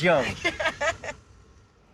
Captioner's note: laughs